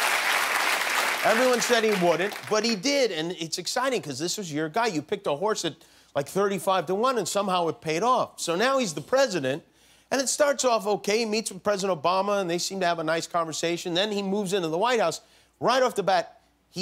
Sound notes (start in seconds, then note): 3.4 applause